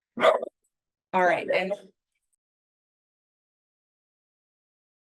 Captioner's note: dog barking